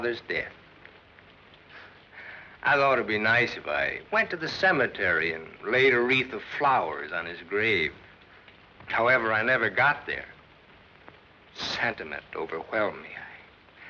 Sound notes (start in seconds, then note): none